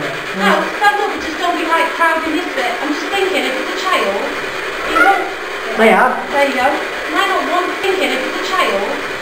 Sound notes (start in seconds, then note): 4.4 child's voice